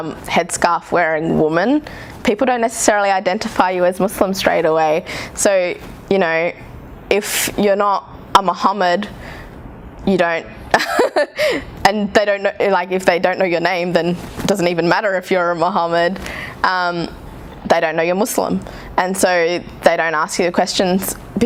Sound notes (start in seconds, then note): 10.8 laughs